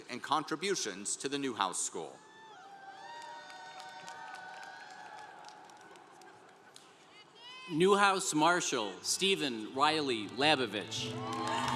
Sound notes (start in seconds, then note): 2.4 congregation cheering